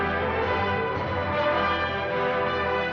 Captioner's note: bell